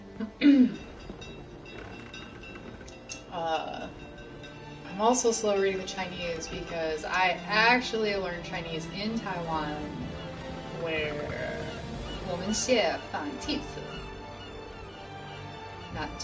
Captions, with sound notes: [CLEARS THROAT] I'm also reading the Chinese because I actually learned Chinese in Taiwan, [SPEAKING CHINESE]..